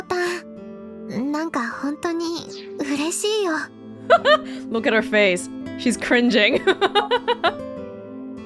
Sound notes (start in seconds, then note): 4.1 chuckles; 6.6 chuckles